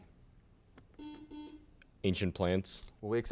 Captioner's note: buzzer sounds